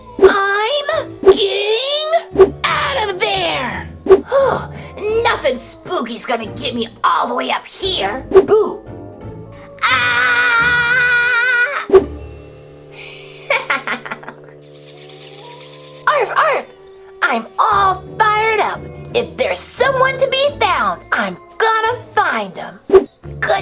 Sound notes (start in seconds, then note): 9.7 screams; 13.4 laughs; 14.6 bats flying; 16.2 barks